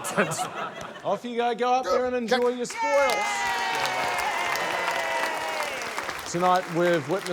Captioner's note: cheering, applause